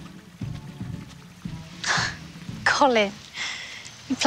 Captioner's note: gasps